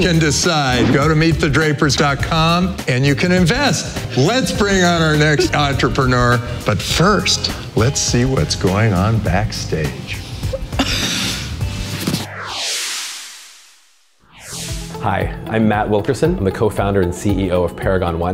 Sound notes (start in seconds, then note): 10.4 laughs